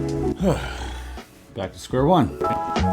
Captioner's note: chill music; host sighing